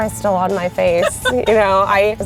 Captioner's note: laughing